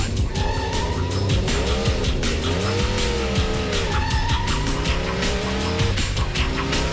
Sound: tires squealing and engine revving

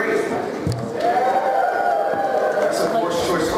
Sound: cheering

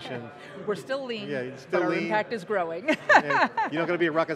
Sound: laughing

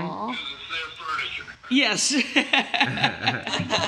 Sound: laughing

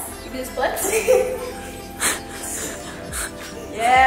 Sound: giggling

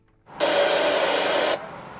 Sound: radio static

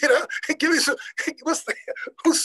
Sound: laughing

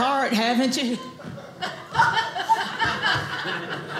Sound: audience laughing

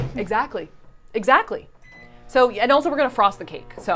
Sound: microwave beeping

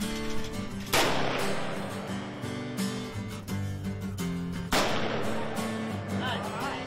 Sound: gunshots; upbeat music

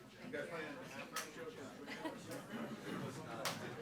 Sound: speaking faintly

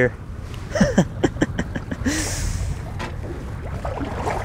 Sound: chuckles

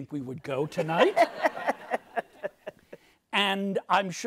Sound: audience laughs

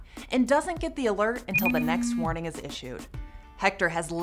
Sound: phone vibrates and rings

